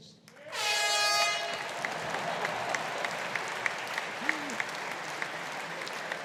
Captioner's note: audience applauding; fog horn